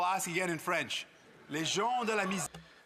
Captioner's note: speaking French